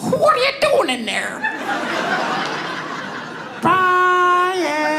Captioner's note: audience laughs